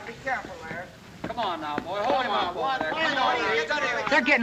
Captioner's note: commotion